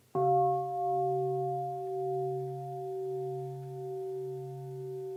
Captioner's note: bell sounds